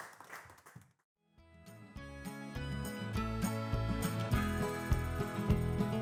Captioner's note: claping